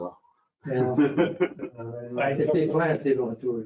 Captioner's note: man in cream laughs